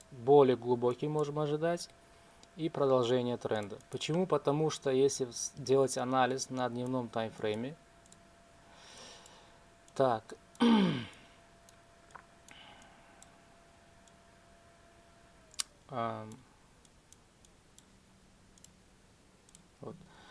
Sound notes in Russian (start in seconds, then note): 10.6 кашель; 10.6 откашливается